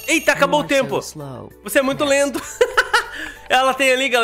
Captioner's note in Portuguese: risos